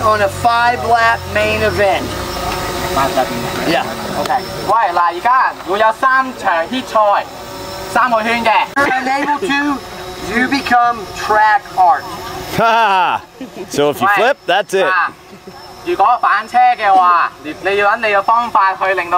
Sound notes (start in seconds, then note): 3.0 speaking in foreign language; 12.0 cameraman laughs; 15.0 speaking in foreign language